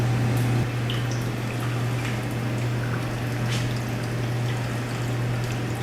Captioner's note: crisp sounds of water dropping down the pipes